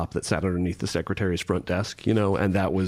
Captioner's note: none